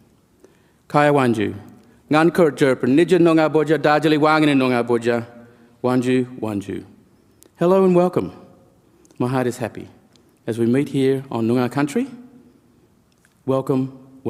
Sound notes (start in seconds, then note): 3.6 speaks in language